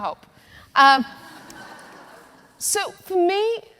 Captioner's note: audience laughing